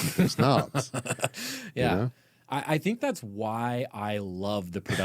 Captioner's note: laughing